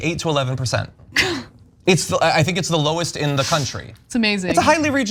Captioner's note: laugh